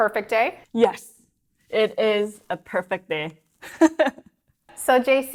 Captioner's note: chuckles